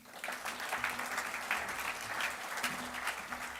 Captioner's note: clapping